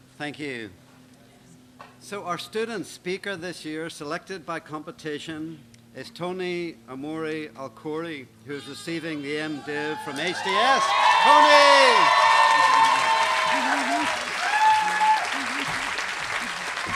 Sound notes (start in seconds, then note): 10.4 applause